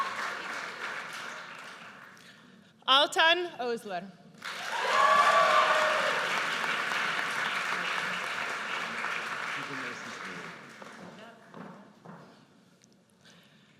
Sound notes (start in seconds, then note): 4.5 audience cheers; 10.0 speaking faintly